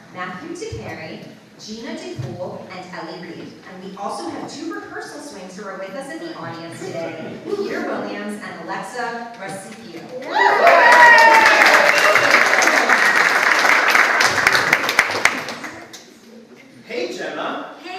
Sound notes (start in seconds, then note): 10.2 audience applauds